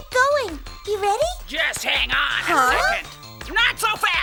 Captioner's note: gasps